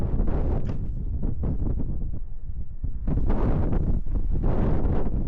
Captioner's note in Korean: 바람소리가 어마무시하군요